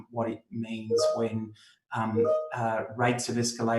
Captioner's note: computer notification rings